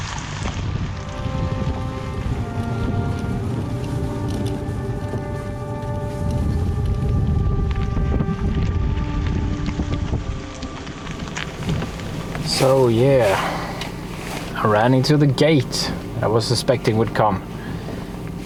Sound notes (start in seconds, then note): 6.4 car Sound